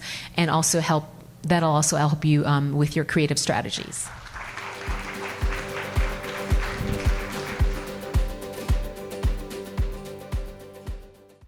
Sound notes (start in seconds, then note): 4.1 audience applauds; 6.0 upbeat music